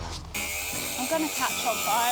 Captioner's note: tool buzzing loudly